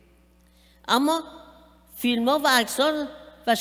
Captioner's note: speaking persian